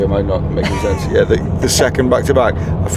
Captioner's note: laughs